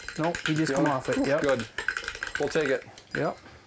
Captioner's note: none